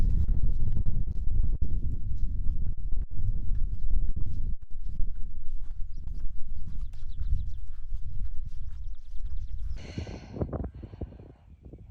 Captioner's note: wind blowing